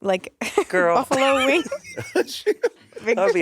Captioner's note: Monét laughing